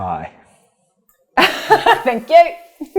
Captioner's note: laughing